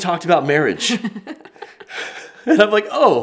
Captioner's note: both laugh